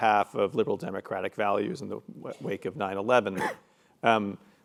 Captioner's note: cough